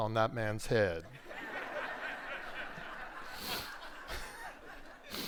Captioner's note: audience laughs